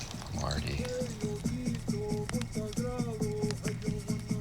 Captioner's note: chanting